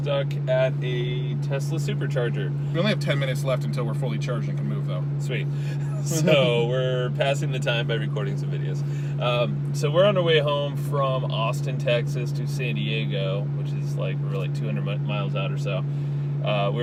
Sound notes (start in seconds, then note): 5.7 both laugh